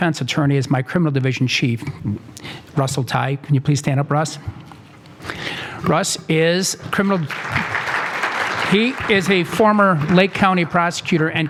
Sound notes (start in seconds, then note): 7.1 applause